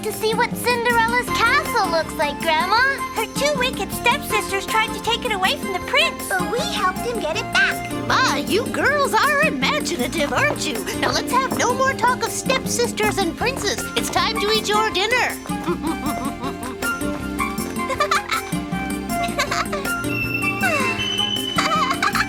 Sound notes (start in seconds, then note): 18.9 laughs